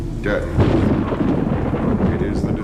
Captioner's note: thunder crashing